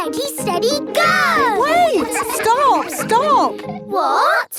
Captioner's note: all laughing